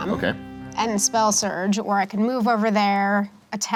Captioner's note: none